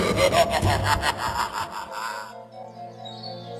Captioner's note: screams